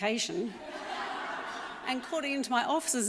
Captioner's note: audience laughs